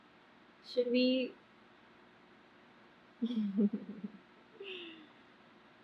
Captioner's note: laughs